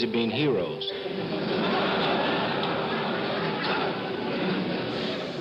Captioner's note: audience laughing